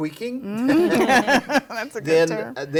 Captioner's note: all laugh